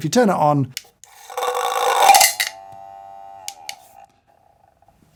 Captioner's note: magnet rattling